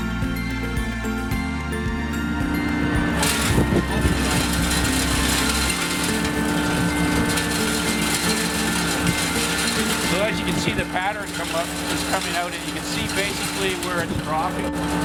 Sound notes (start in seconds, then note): 3.2 salt clattering